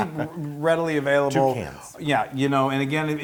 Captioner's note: laugh